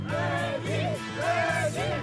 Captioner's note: chanting